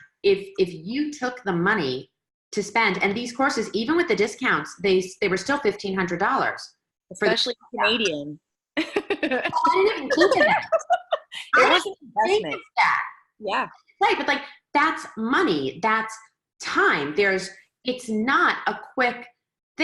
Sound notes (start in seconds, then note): 8.8 laughs